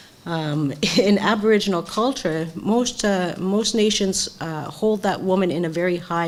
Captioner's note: laugh